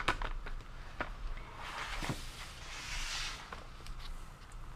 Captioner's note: articles rustling